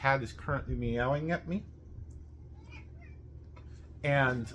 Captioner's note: cat meows